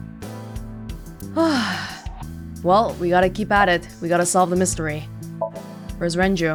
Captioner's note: exhales